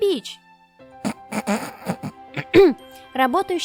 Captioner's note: chuckles